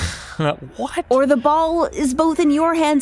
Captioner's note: laughs